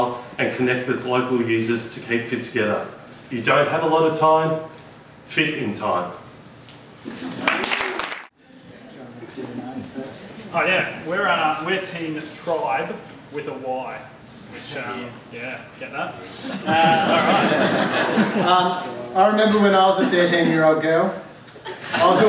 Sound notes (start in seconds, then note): 7.4 applause; 16.4 laughter